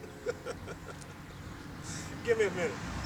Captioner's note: laughing